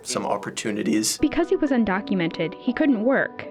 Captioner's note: voice-over